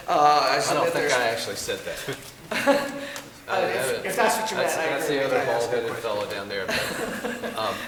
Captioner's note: laughter